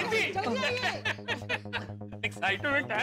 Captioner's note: laughing